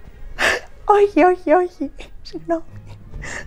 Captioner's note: laughs